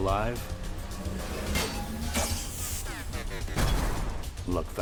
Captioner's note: weapons clashing